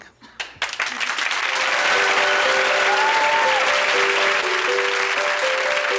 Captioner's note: clapping; light music